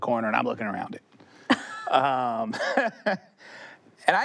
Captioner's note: laughter